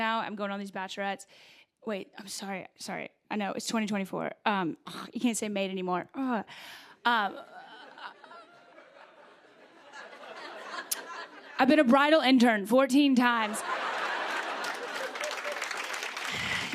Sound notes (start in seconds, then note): 7.4 laughter; 13.4 laughter and applause